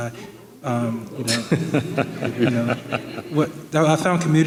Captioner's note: audience laughing